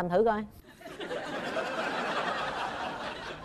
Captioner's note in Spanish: risas